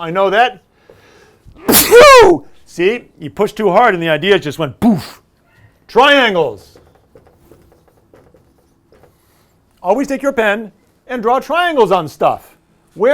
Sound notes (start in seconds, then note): 1.6 sneeze; 4.8 poof